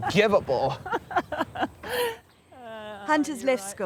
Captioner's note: laughter